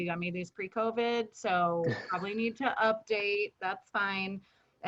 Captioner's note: chuckles